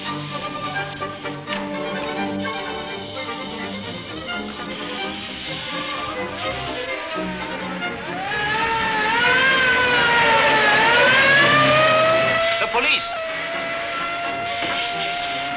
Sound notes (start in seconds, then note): 7.6 sirens wailing